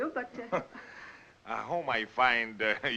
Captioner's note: scoffs